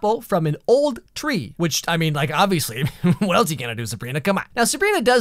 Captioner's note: laugh